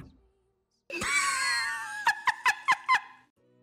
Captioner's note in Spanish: ríete